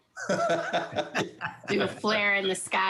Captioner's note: laughs